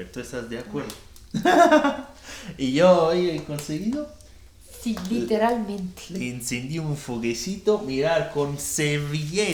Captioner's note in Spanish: risas